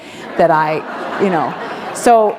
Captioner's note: laughter